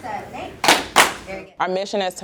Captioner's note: clapping